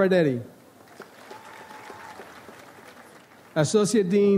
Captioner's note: audience applauds